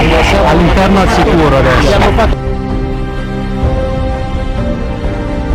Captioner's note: speaking in foreign language